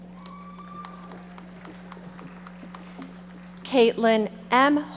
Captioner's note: audience applauding